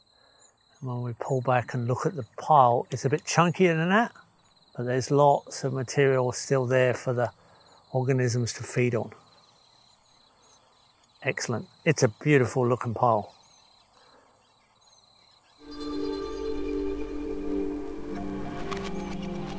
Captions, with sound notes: And when we pull back and look at the pile, it's a bit chunky and that, but there's lots of material still there for the organisms to feed on. Excellent. It's a beautiful looking pile. [insects chirping] [relaxing upbeat music]